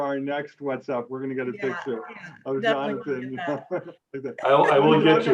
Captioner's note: laughs